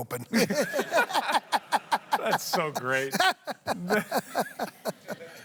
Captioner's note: laughter